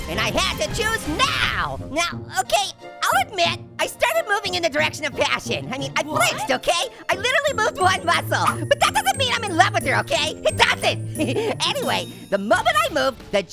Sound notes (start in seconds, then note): 11.1 chuckles